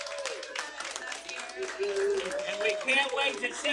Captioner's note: applause